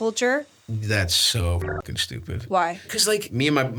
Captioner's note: beeps